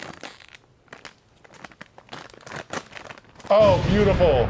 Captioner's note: bag rustling